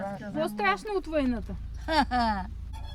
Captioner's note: ironic laughter